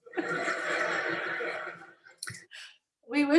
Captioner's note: laughs